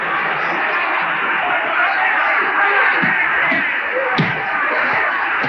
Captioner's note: crowd cheering